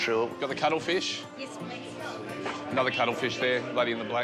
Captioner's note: none